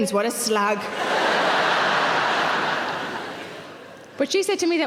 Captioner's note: audience laughing